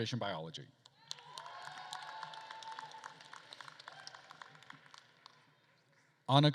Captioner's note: attendees cheering and applauding